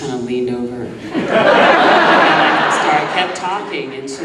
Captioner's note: audience laughing